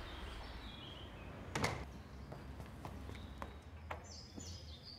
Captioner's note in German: Vogelzwitschern; Tür fällt zu